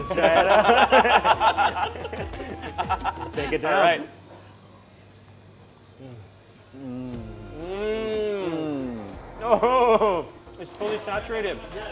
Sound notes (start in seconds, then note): 0.1 laughing; 4.5 eating